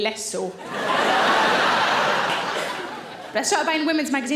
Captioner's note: audience laughing